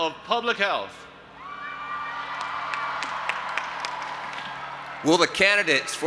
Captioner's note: audience applauding and cheering